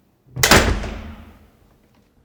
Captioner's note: door slam